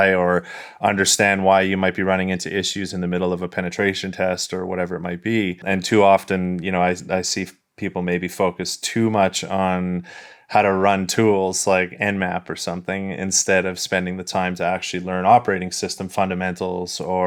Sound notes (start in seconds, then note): none